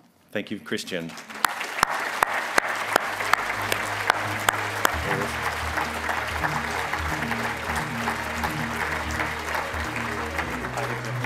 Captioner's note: applause